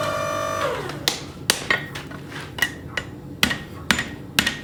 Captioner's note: hammer banging